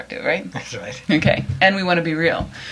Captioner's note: laughs